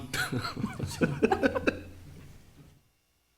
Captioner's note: laughing